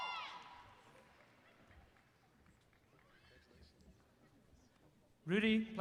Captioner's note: applause